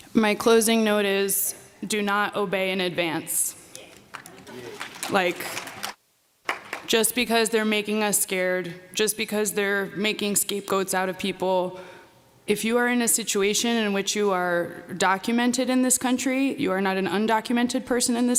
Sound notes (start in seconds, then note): 3.9 applause